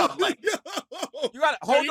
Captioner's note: laughing